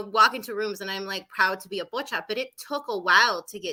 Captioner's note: speaking Spanish